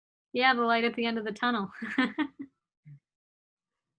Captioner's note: laughs